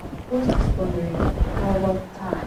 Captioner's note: voiceover